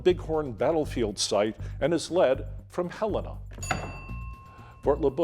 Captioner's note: bell dinging